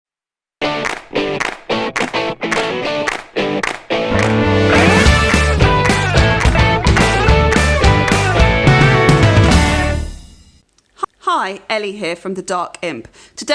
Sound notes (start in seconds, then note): 0.7 claps